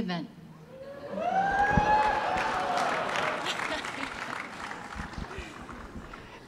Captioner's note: audience cheering and clapping